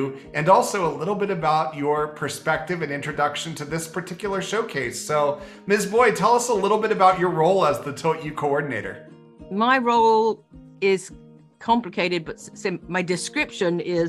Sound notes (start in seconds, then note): none